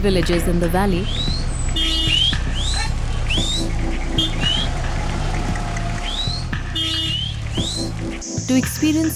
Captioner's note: car engine revving; horn beeps; man whistling